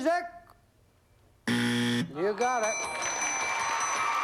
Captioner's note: buzzer